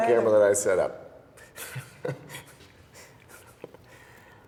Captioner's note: chuckling